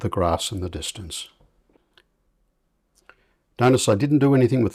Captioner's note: silence